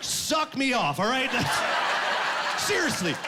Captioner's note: laughing